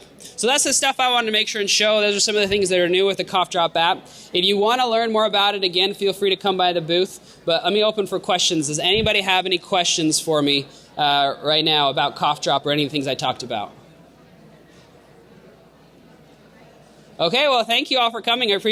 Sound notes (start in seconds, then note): 14.3 crowd chattering